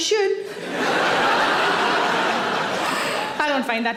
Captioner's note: audience laughs